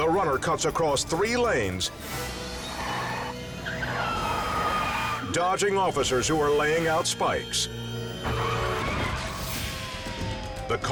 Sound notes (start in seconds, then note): 2.4 car screeches; 8.2 car screeching